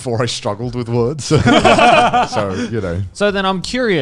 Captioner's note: laughing